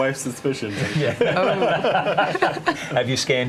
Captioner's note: all laugh